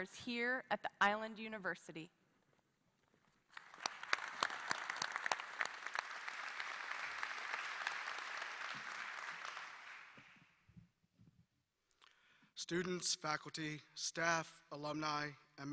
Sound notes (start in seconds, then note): 3.5 applause